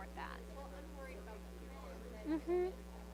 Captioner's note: students chattering